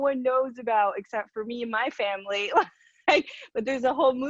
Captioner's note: laughs